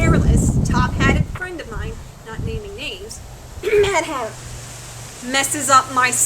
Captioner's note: subtly coughs “Mad Hatter!”